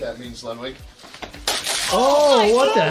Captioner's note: bottle clatters